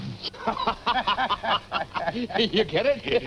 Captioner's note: men laughing